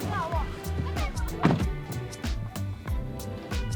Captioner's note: car door thuds; upbeat music